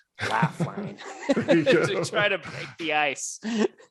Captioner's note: laughing